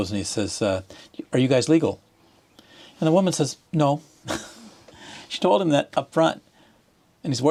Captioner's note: laughter